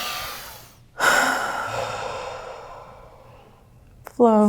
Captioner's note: inhaling; exhales